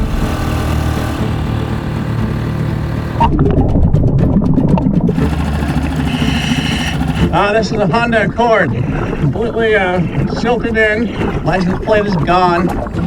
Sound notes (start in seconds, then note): 0.1 motor boat whirring; 3.2 upbeat action music continues; 5.3 motor boat whirring; 5.6 oxygen hissing in water